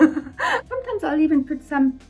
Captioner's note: chuckles